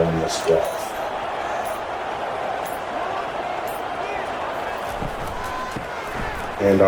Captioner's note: crowd Noises